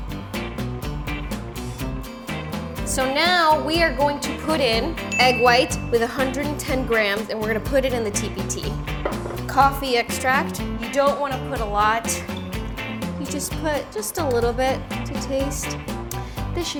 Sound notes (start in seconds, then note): 5.1 bell dings